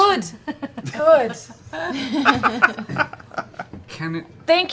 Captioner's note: laughter